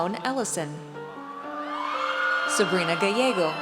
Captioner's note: audience cheers